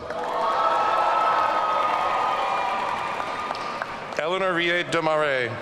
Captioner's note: audience cheering